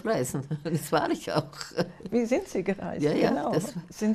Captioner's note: laughing